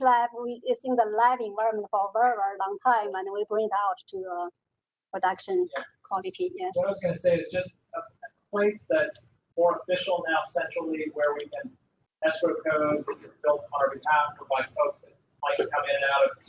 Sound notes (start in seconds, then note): 12.6 talking